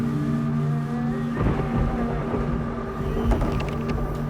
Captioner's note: thunder rumbles